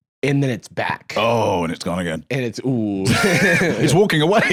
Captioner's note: laughs